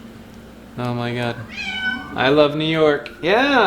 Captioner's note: cat meows